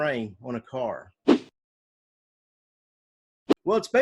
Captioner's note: text whooshing